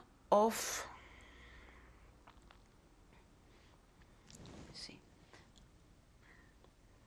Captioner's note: pauses for 3 seconds